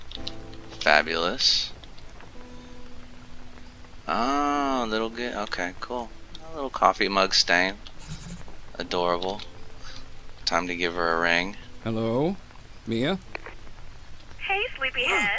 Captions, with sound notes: okay fabulous [mumbling while reading] cool little coffee mug stain adorable time to give her a ring